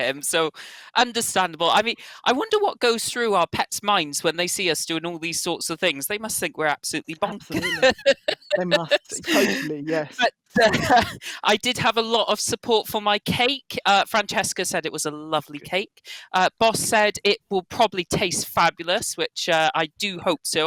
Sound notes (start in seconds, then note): 7.3 laughs